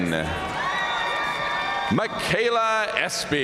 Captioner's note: audience cheering and applauding